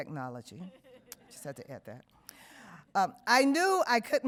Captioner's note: woman laughs